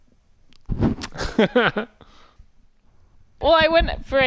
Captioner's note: lips smacking